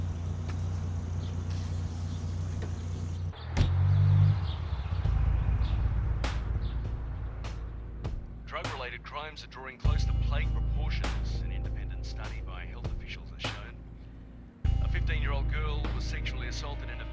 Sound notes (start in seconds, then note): 2.3 car door clinks closed; 7.1 slow somber music